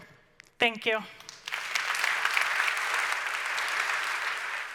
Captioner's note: audience applauding loudly